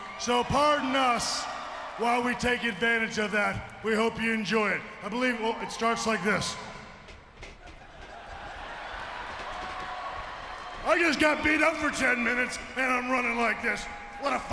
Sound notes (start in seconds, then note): 7.6 audience laughing